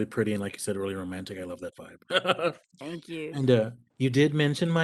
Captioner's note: chuckles